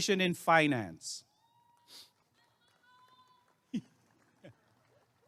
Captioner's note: applause and cheering